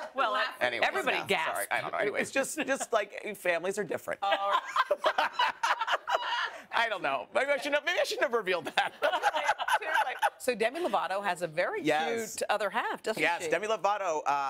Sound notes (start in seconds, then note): 8.6 laughter